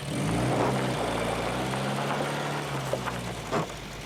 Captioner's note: car revving